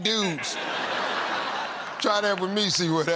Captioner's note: laughter